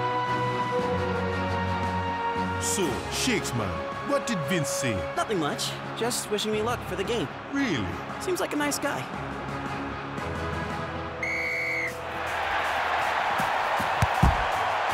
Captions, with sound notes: - So, Shakes man, what did Vince say? - Nothing much. Just wishing me luck for the game. - Really? - Seems like a nice guy. (whistle blows) (crowd cheers)